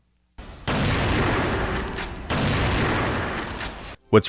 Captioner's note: gunshot noises